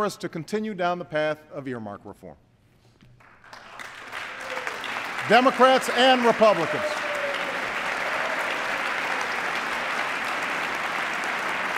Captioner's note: applause